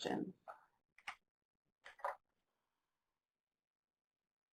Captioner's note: keyboard clicks